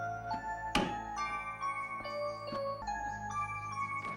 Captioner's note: doorbell ringing